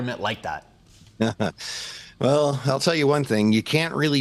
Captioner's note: chuckles